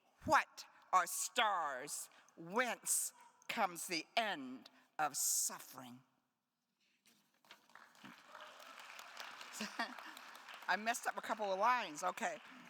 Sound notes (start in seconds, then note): 7.5 attendees applauding